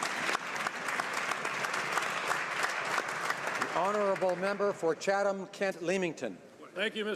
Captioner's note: applause